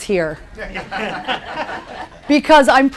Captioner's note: laughter